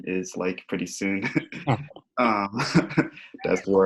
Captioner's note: panelists laughing